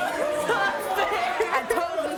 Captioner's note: sobbing